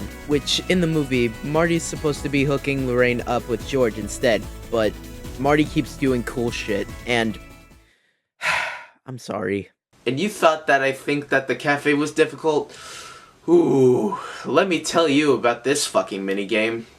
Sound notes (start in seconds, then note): 8.4 sigh